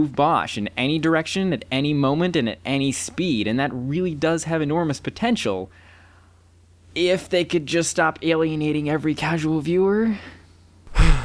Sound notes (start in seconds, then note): 5.9 sigh